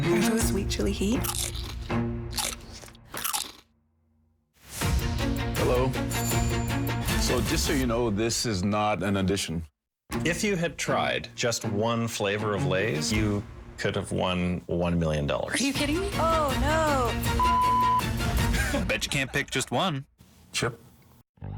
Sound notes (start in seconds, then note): 2.3 crunching; 16.8 laugh; 17.4 beep